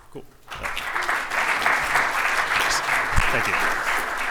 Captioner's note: applause